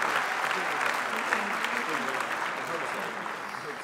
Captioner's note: applause